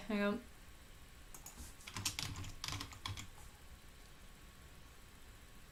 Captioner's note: keyboard clicking